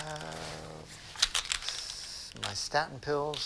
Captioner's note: pills rattle